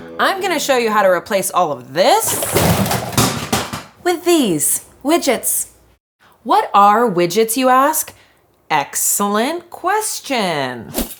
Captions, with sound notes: I'm gonna show you how to replace all of this (items crashing) with these. Widgets. What are widgets, you ask? Excellent question.